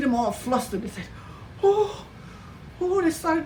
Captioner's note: whimpers